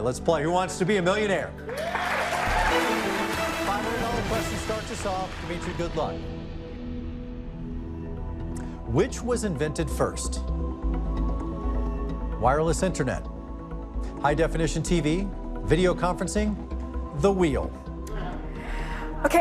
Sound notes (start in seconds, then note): 1.6 cheers and applause; 3.1 dramatic music